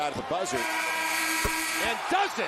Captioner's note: buzzer buzzing